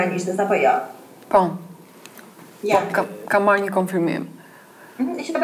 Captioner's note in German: Klientin spricht Albanisch